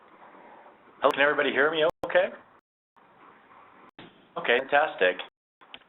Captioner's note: voiceover